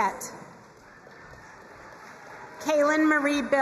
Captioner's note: crowd cheering and applauding